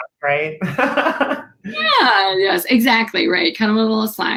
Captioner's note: laughter